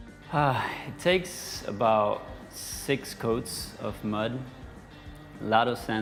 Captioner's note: sigh